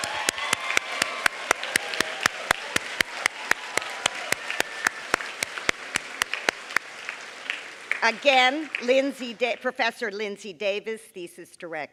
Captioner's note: applause